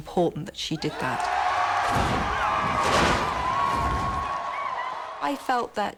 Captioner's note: students cheering